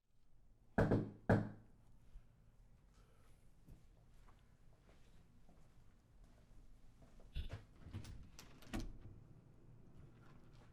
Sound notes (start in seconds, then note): 0.8 door knocking